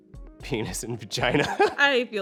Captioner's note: laughing